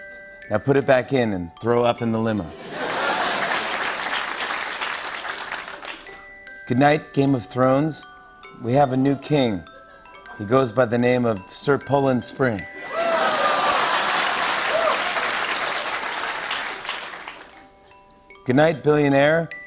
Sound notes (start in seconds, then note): 2.5 laughter and applause; 5.1 applause; 12.7 laughter and cheering; 15.5 applause